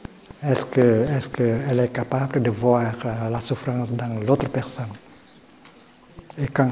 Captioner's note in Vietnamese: tiếng pháp